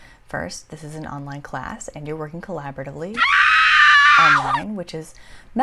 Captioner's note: scream